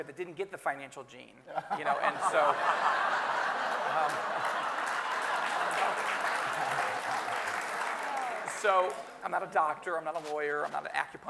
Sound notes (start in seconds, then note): 1.6 everyone laughing and applauding